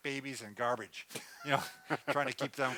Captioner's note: laughs